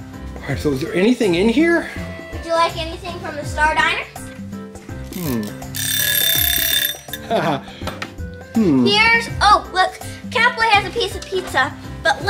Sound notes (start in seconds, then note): 5.7 bell ringing; 7.2 Mr. Engineer chuckles